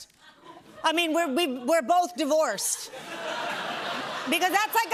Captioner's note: laughter